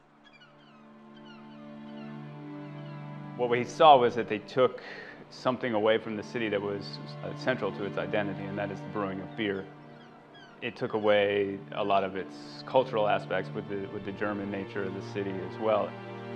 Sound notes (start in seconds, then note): 0.0 gulls screeching; 2.7 dismal music